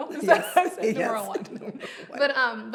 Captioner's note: both laughing